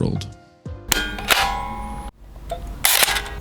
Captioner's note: CHUNK! ponk!